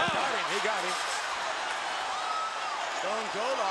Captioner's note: crowd cheering